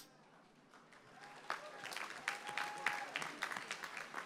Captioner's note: applause